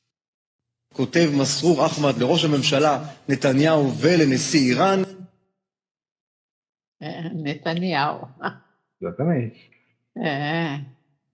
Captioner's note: Speaking Hebrew